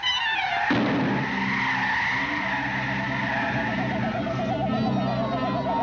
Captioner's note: door clamoring; wind whooshing